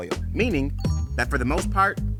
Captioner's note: graphic chimes